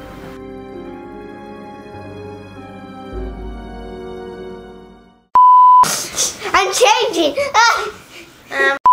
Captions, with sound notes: (intense music) (camera tone beeps) - I'm changing.